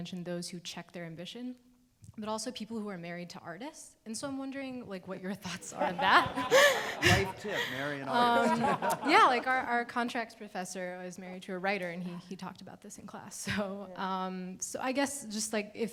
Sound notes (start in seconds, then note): 5.5 all laughing